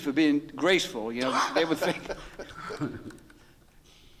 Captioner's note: laughing